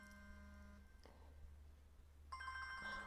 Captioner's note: ring ring